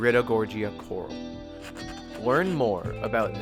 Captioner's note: gentle music continues; page rustles